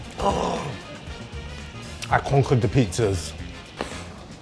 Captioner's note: gasps